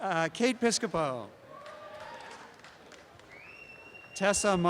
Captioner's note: applause and cheering